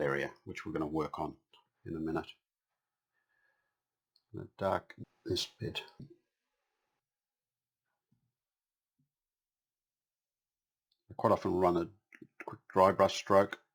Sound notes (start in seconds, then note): 6.2 silence